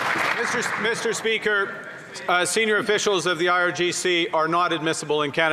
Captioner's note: some Applause